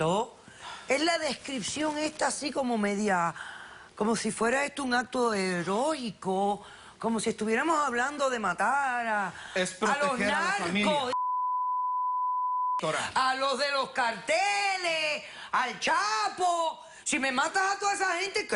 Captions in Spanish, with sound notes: ESTO ES LA DESCRIPCION ESTA ASI COMO MEDIA... COMO SI FUERA ESTO UN ACTO HEROICO, COMO SI ESTUVIERAMOS HABLANDO DE MATAR A LOS NARCOS... - [Bip] - A LOS DE LOS CARTELES, A EL CHAPO. !SI ME MATAS